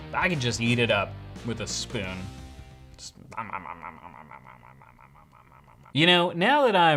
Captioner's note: munching sounds